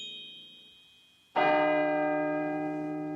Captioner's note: bell tolls